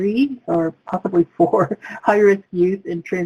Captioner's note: laughs